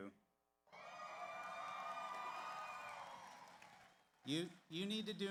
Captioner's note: audience cheers; audience applauds